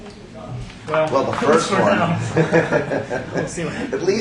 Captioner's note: laughs